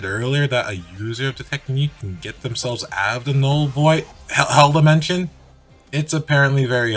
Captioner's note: sound effect